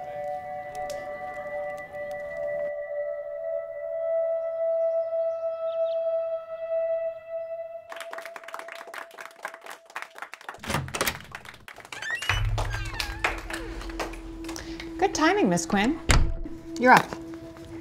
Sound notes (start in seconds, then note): 0.3 light music; 7.8 applause; 11.8 door squeaks